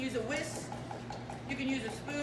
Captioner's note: egg yolk sloshing